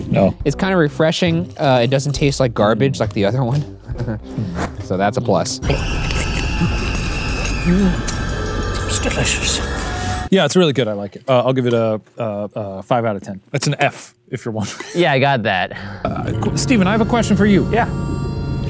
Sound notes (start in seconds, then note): 3.9 laughs; 4.8 whoosh; 6.5 frightening music; 14.7 laughs